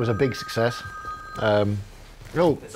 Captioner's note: phone rings